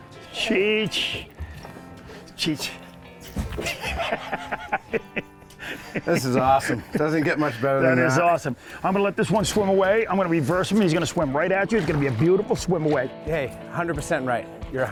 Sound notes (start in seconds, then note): 3.3 laughs